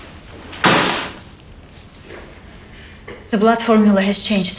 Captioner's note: door closing